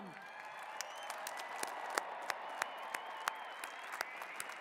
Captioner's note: cheers and applause